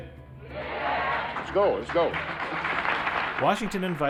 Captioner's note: crowd applauding